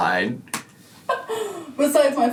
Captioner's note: laughs